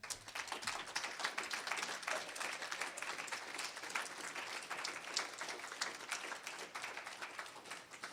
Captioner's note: applause